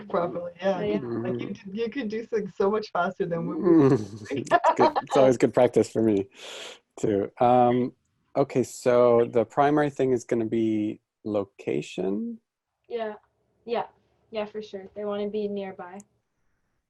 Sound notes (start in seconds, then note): 3.7 lady laughs